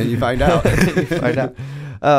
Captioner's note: laughter